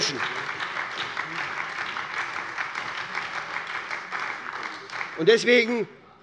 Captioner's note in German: Beifall bei der SPD